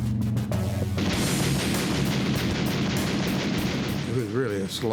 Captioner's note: gunfire